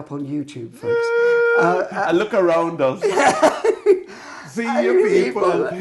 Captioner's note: laughing